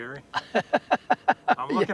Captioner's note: laughter